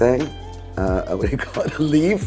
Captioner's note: chuckles